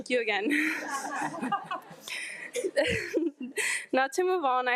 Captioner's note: audience laughs